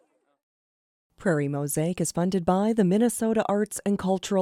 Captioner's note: voiceover